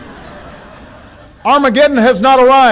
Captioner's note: laughter